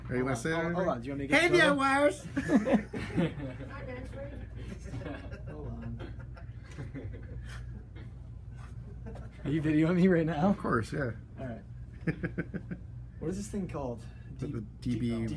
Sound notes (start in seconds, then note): 2.3 laughter; 12.0 chuckling